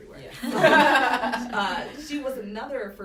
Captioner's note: laughter